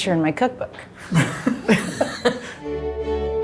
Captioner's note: group laughing; gentle music